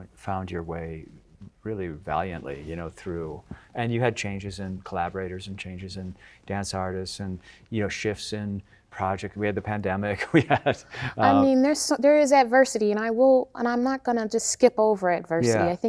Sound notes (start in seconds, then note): 10.2 chuckling